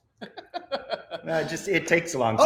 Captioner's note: laughs